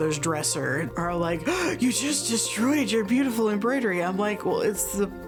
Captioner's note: gasps